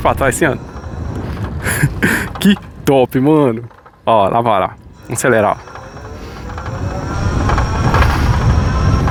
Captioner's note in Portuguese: risadas